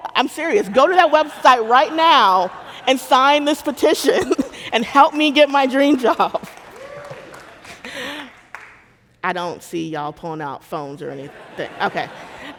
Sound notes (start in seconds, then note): 6.1 audience applauding; 6.7 laughing; 11.2 audience laughing